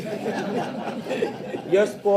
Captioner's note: people chuckle